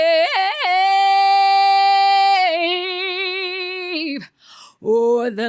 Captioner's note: screaming